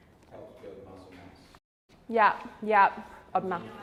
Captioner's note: group chattering